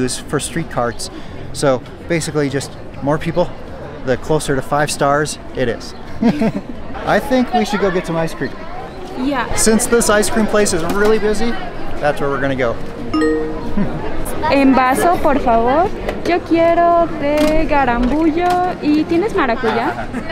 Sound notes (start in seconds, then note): 6.2 laughs; 13.1 computer beeps